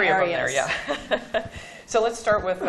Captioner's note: laughter